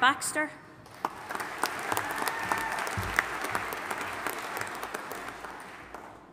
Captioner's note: audience applauding and cheering